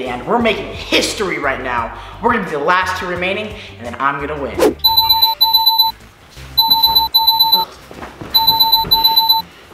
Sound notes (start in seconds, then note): 5.1 alarm ringing